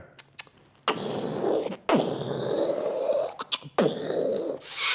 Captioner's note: makes variety of sound effects